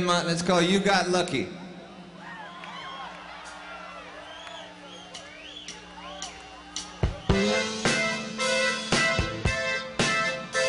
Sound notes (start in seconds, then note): 2.3 audience applauding; 5.6 lively music